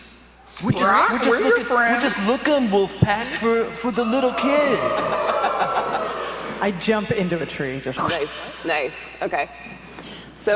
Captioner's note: audience howls